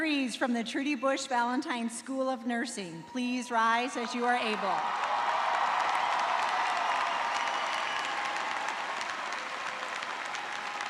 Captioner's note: cheers and applause